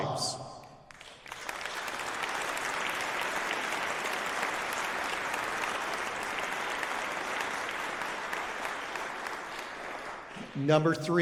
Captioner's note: applause